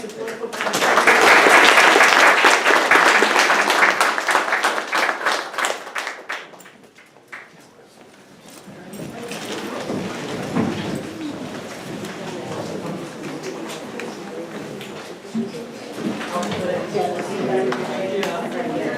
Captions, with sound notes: for the wonderful presentation. (audience applauding) (people chattering)